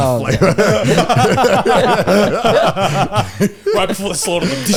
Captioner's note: all laughing